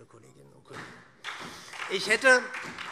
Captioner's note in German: Beifall SPD